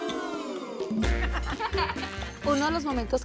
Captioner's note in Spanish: Risas